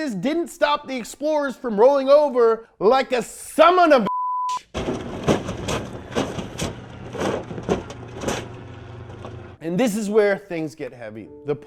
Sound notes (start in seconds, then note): 4.6 banging